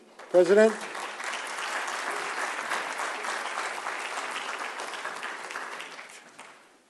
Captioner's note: applause